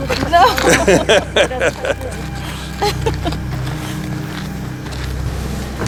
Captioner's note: laughing